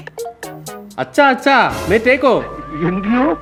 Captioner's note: speaks in Hindi